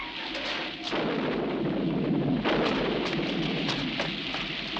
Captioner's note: rain pattering; thunder crashing